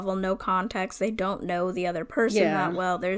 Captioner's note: none